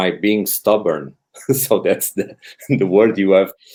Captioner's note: chuckles